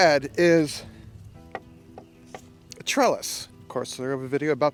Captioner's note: cup knocking